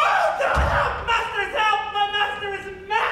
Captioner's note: cries out